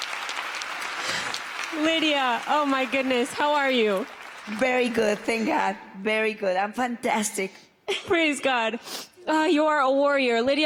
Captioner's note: applause